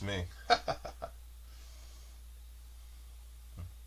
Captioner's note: laughs